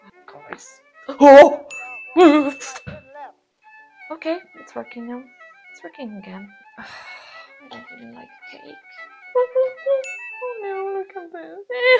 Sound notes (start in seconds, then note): 6.8 old lady sigh